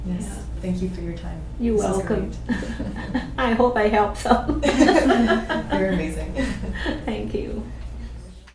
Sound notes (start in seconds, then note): 7.0 all laugh